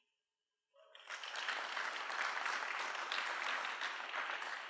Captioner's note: applause